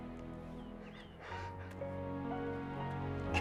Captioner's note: sobbing